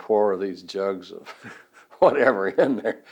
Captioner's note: laughs